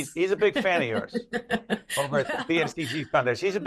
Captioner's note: laughs